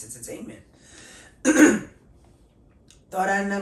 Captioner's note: clearing throat